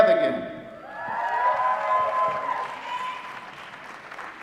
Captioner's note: applause